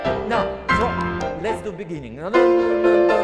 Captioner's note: claps